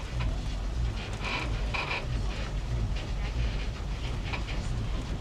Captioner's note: tram creaks